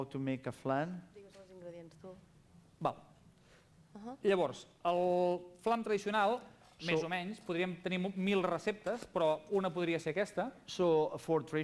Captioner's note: non-english speech